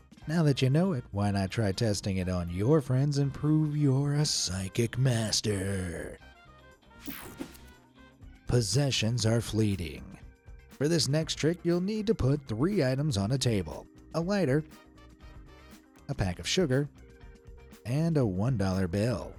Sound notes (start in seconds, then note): 7.0 screen whooshing